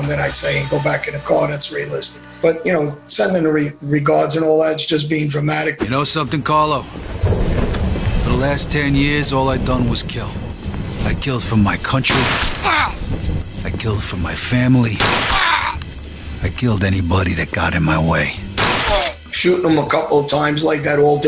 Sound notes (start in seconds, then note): 14.9 gunshot; 18.5 gunshot